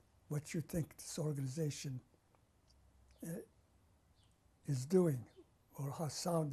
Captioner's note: pauses for 3 seconds